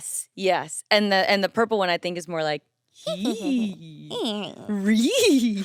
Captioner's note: chuckles